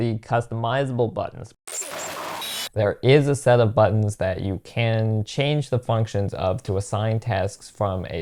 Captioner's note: static